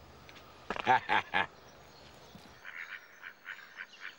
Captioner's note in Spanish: Bart se ríe